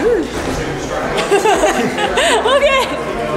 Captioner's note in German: Mädchen kichern